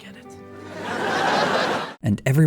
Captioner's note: audience laughter